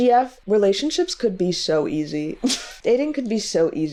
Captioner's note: laughs